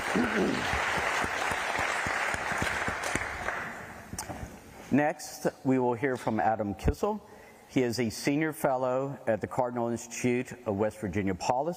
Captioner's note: applause